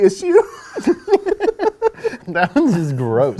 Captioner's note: laughing